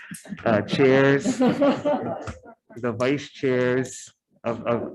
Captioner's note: attendees laughing